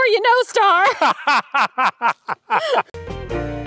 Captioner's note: laughs